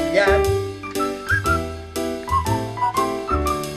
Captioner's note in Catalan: xiular